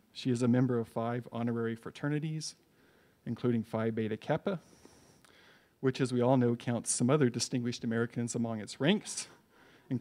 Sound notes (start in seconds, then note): none